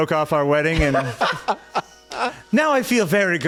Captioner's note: laughing